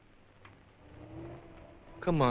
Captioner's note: truck approaching